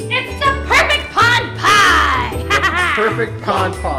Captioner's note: laughing